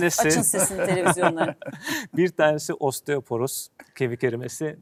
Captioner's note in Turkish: kahkaha